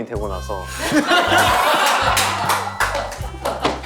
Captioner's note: the crew's laughter fills the room